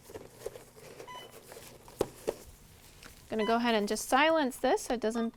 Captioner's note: Alaris pump beeps